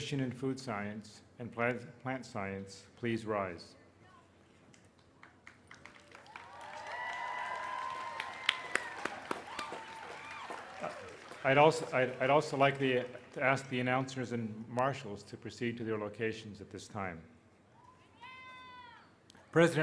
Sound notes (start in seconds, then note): 4.7 applause